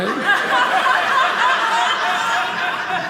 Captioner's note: audience laughing